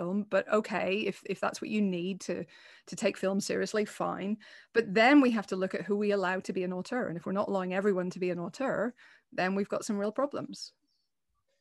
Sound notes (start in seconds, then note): none